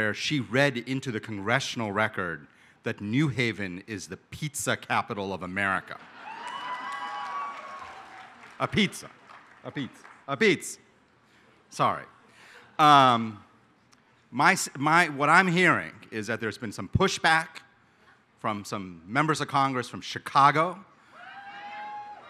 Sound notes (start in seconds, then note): 6.1 applause